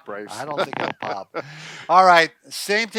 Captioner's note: chuckles